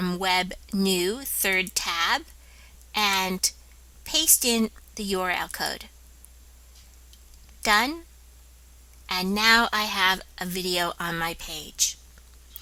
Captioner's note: click